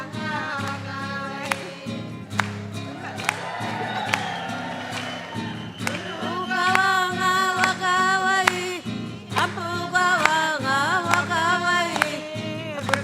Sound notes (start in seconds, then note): 0.0 sings in native language; 2.7 audience cheers; 6.6 sings in native language